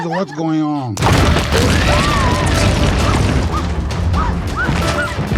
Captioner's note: loud explosion